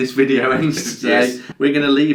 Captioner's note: laughs